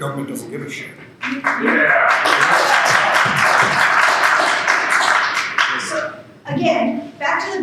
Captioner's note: applause